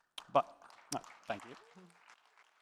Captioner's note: applause